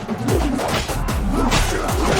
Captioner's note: grunting